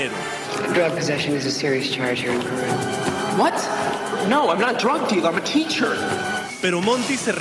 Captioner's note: speaking in English